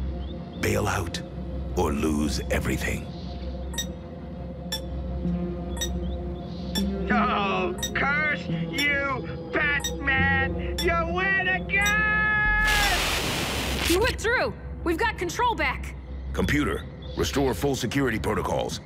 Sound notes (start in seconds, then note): 12.6 static